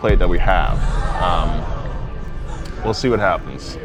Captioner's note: crowd